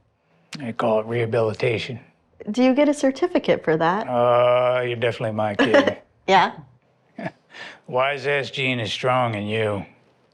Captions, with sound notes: They call it rehabilitation. Do you get a certificate for that? Oh, you're definitely my kid. [Kirsty laughs] Yeah? [Hardy laughs] Wiseass gene is strong in you.